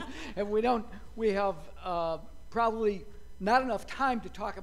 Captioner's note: laughter